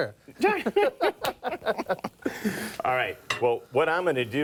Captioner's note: men laugh